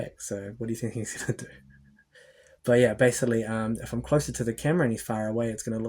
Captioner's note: laughs